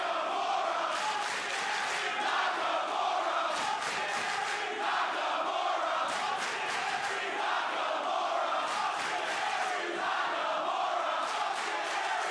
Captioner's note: crowd cheering